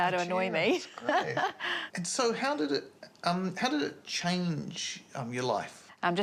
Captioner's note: laughs